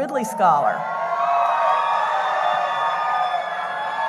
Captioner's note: cheering